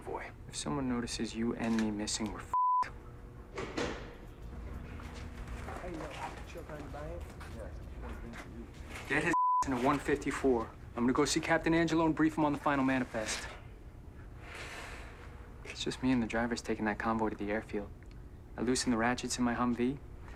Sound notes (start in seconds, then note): 3.5 door closes; 4.2 chatter upstairs